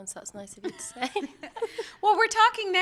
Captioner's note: laughter